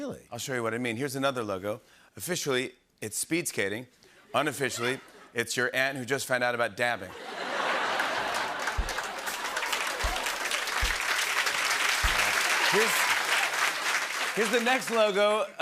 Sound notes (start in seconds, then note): 7.1 laughter; 9.5 applause